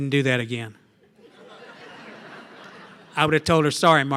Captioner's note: laughter